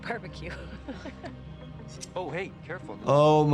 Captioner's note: Brian's mom laughing